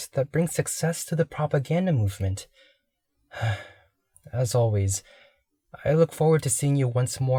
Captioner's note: sighs